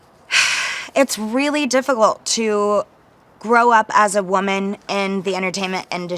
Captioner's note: sighs